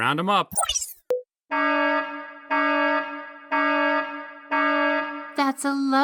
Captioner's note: loud alarm